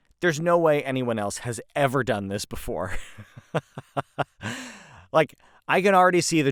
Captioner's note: laughs